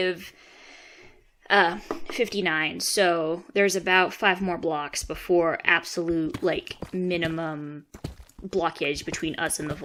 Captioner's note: tap tap